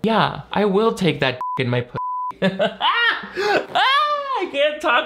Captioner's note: beep; laughs